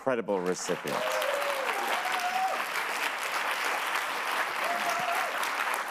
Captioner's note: audience applauds